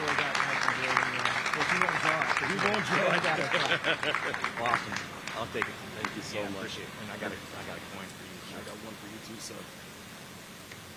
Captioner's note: applause